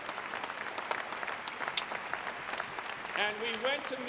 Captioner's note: audience clapping